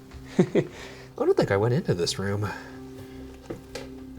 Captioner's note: chuckles